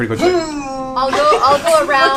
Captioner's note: grunts